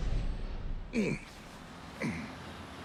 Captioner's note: grunts